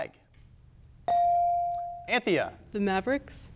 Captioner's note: bell dings